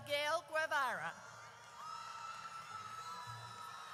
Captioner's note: audience cheers